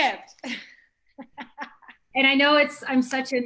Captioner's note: laughing